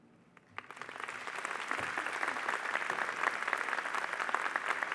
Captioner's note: audience applauding